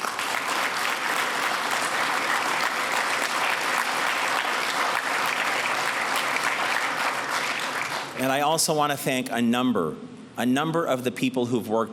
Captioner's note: applause